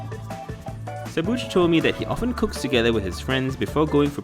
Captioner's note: voiceover